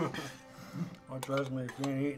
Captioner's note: laughs